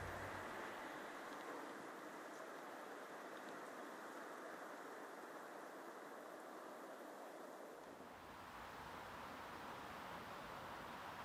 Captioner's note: wind sounds